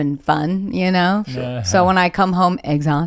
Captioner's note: chuckles